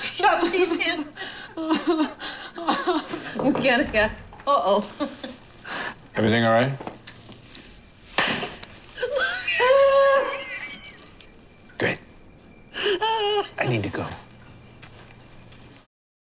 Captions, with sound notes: Shove these in. (laughing) Uh oh. - Everything all right? (laughing) Great. (laughing) I need to go.